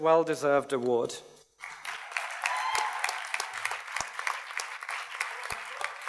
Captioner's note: audience cheers and applauds